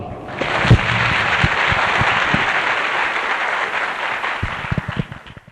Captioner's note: clap